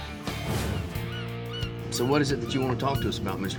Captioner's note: seagulls squawking